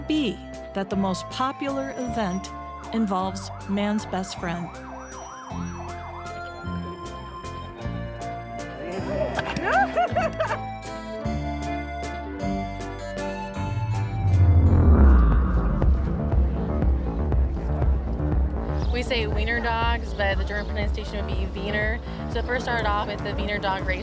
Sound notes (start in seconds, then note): 9.4 woman laughs; 16.0 intense music